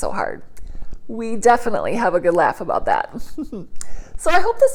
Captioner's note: chuckles